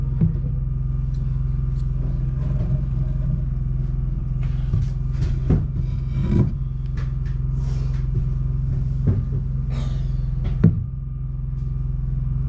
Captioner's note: knocking